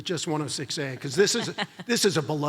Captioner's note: laughs